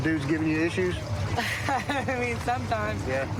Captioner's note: laughs